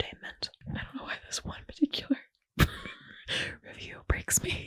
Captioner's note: laughing